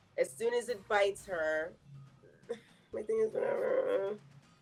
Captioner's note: groaning